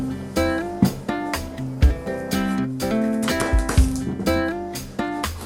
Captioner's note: squash